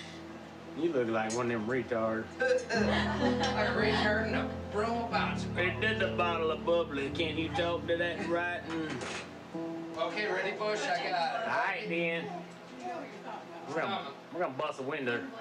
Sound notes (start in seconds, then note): 2.5 laughs